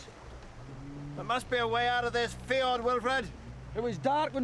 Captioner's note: loud bellowing